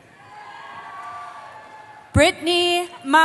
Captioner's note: cheering